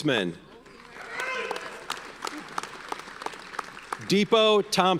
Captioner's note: audience cheers and applauds